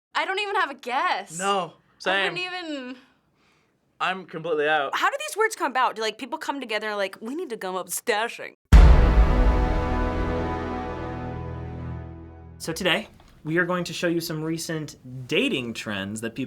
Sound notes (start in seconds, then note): 7.2 stately voice; 8.7 dramatic chord